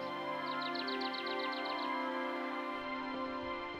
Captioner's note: birds chirping